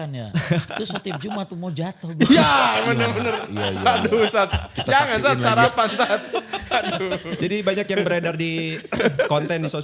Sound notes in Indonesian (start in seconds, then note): 1.1 tertawa; 6.3 tertawa